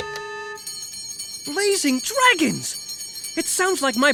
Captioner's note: bell ringing